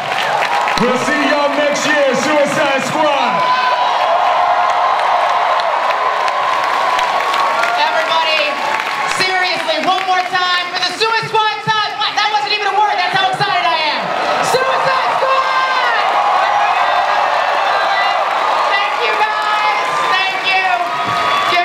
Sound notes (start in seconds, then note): 0.1 audience cheering and applause; 3.8 audience cheering and applause; 16.4 audience cheering and applause